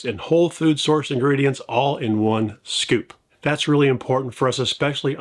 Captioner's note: none